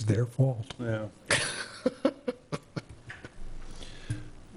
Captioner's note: laughing